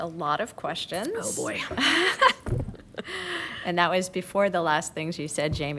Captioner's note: laughter